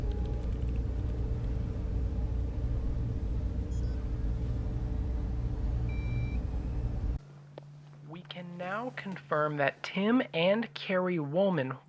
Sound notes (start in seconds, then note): 5.7 machinery beeping